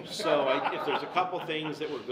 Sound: everyone laughs

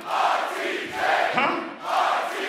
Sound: crowd

